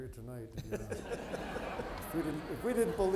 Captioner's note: audience laughing